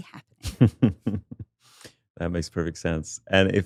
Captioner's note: chuckles